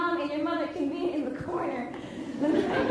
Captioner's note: laughs